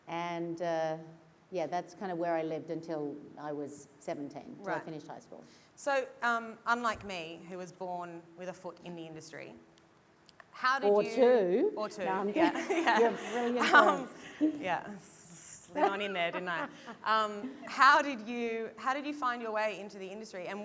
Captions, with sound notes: And, yeah, that's kind of where I lived until I was 17, until I finished high school. - So, unlike me, who was born with a foot in the industry-- - Or two. - Or two, yeah, yeah. - You have brilliant parents. - Yeah, slid on in there, didn't I? (laughter) - How did you find your way into the industry?